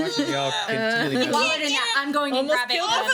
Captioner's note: straining